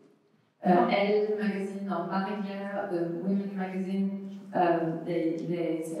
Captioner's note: french